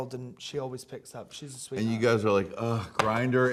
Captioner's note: none